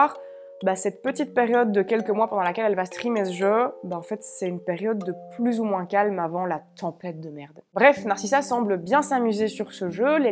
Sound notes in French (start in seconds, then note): none